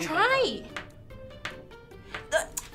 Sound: tapping on table

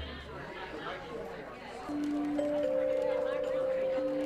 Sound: people chatter; gentle music

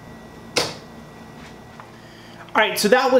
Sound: thuds

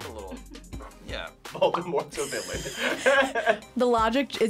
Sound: laughs

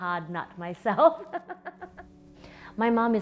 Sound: laughs

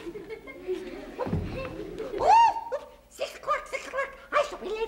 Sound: children laughing; March Hare exclaiming

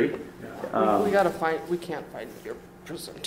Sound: voiceover

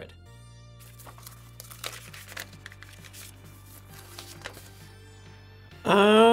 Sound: papers Ruffling

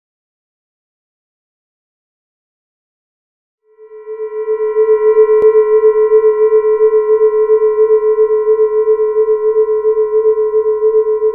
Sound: sound of alien invasion

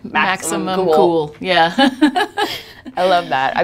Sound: laughing

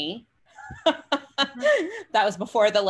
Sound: laughs

